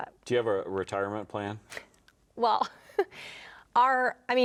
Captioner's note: chuckling